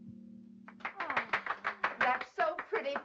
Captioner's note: applause